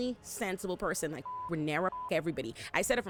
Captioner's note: beep